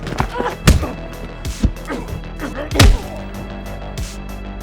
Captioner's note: fighters moaning; upbeat music